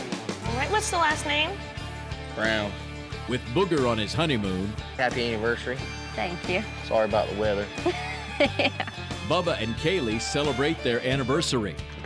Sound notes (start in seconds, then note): 7.8 laughs